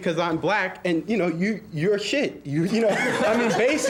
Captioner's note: students laughing